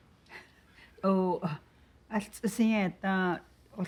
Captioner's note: speaking Navajo